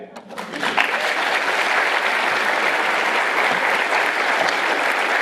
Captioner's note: applause